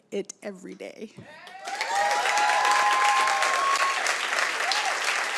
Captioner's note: audience cheers